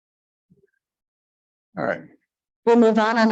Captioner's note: none